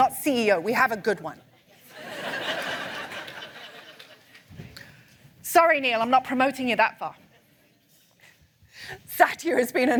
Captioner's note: laughter